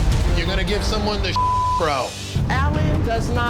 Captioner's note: beep